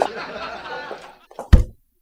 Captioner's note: single knock